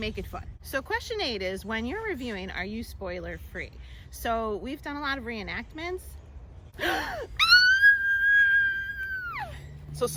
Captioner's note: scream